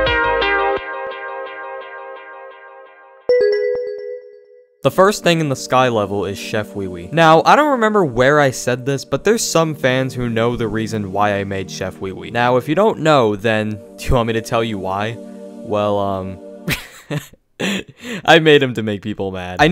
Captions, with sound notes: (bell dinging) The first thing in the sky level is Chef Weewee. Now, I don't remember where I said this, but there's some fans who know the reason why I made Chef Weewee. Now, if you don't know, then do you want me to tell you why? Well, (laughing) I made him to make people mad.